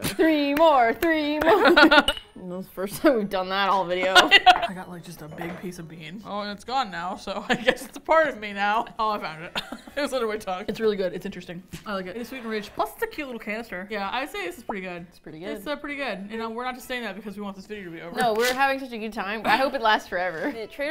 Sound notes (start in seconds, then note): 0.0 dreamily; 0.0 laughs; 0.2 chanting, clapping; 1.5 laughing; 1.5 both laugh; 4.0 glasses clink; 4.2 laughing; 5.0 dejectedly; 9.5 laughs; 18.1 chuckles; 18.7 dryly